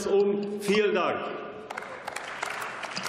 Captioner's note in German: Beifall